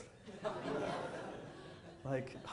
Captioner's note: audience chuckling